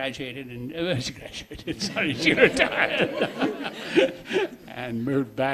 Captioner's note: laughing